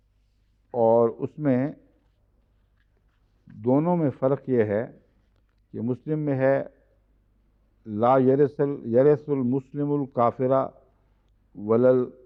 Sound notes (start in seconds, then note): 9.8 Arabic